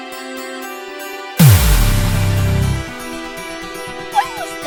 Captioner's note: an explosion is heard closeby